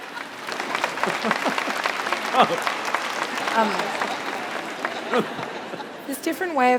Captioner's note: applause